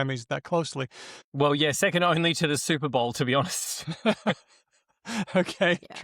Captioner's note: laughter